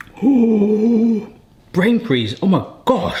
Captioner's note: gasping